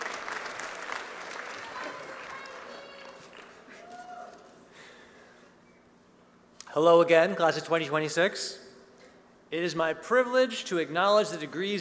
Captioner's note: applause